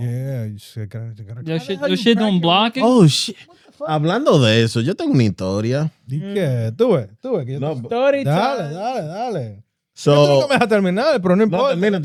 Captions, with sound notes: Yeah, you shit, gotta crack your windshield. You shit don't block it? Oh shit. (Speaking In Foreign Language) So. (Speaking In Foreign Language)